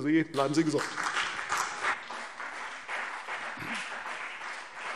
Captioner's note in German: Beifall CDU und BÜNDNIS 90/DIE GRÜNEN